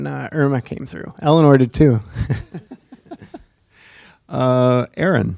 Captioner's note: chuckling